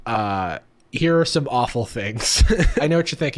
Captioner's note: laughing